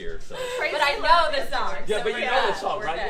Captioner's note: laughter